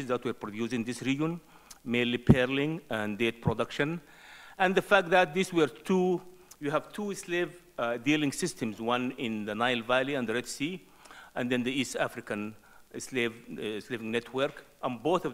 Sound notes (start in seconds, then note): none